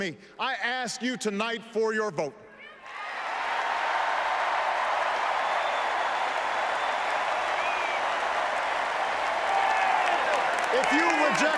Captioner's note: applause